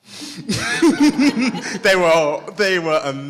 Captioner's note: all laugh